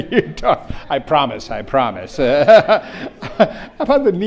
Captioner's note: laughs; laughs